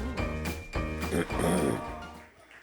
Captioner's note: clearing throat